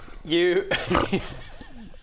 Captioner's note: giggles